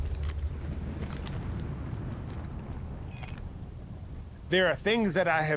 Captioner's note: soft crunching